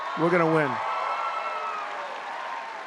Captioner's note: applause